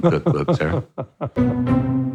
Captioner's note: laughing